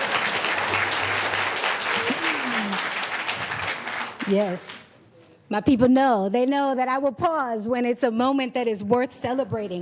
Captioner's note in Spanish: Aplausos